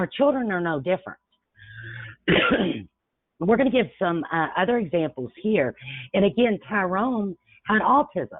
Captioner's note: coughs